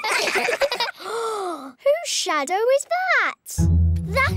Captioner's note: all giggle; gasps